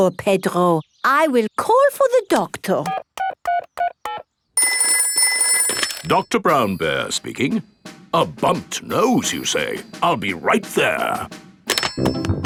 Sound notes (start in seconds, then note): 4.6 dialing; 4.6 telephone ringing